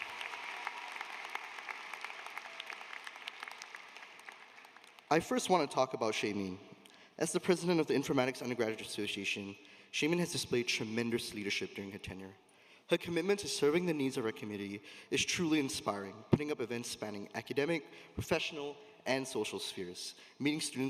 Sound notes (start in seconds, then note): 1.7 applause